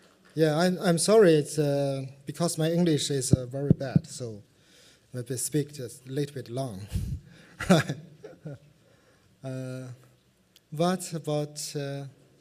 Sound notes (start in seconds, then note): 7.6 laughs